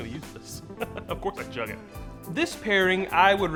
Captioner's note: chuckles